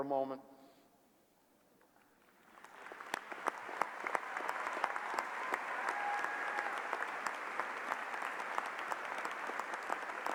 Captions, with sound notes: of cum laude. Please stand. [Cheers and applause] » PROVOST Honor graduates, we commend you On your sue pearltive academic achievements. The red, white, and blue